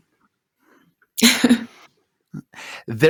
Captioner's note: laughs